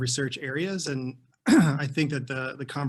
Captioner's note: clears throat